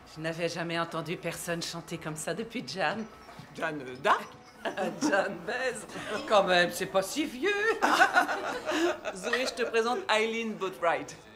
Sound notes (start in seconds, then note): 4.5 chuckles; 7.4 laughing